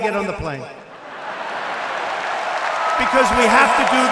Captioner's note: laughter and applause